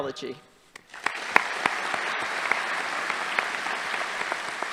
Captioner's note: audience applauding